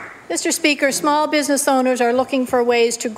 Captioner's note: applause